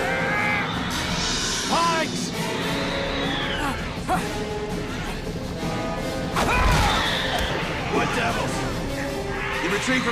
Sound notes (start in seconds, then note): 0.0 creatures screeching; 3.6 men groaning; 6.4 creatures screeching